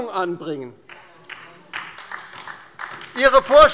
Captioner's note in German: Beifall bei der LINKEN